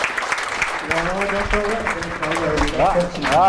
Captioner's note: voiceover